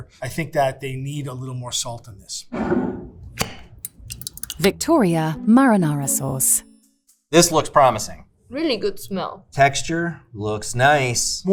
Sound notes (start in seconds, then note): 3.3 sauce sloshing; 3.4 jar scraping; 3.8 jar cap clacking